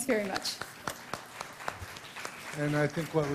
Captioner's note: applause